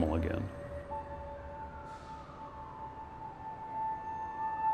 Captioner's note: siren wailing